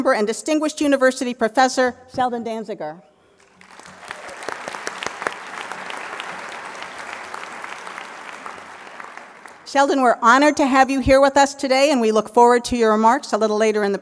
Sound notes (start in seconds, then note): 3.4 applause